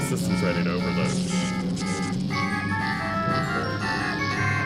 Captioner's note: alarm beeping